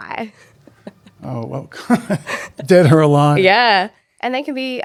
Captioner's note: laughs